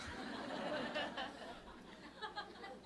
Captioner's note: audience Laughter